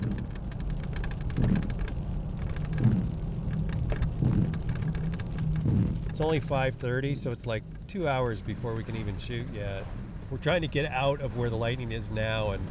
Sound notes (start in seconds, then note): 0.2 rain pattering; 2.9 windshield wipers swooping